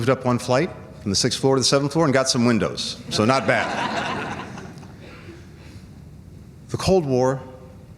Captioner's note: laughter